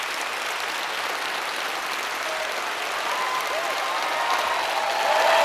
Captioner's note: audience applauds